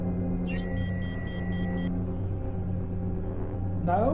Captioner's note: analyzer beeps